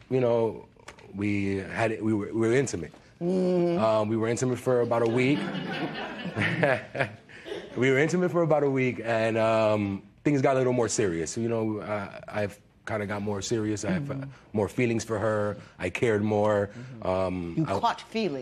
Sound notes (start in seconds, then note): 4.8 laughter